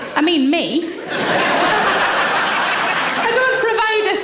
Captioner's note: audience laughs